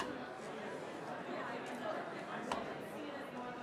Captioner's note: crowd chattering